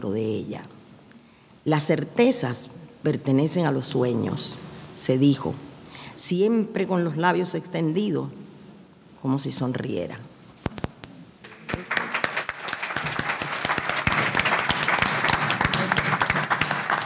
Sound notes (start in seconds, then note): 11.4 audience applauding